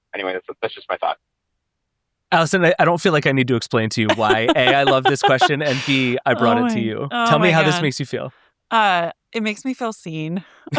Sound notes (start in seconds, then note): 4.0 laughing